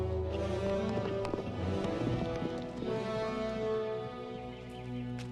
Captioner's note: hooves thudding rapidly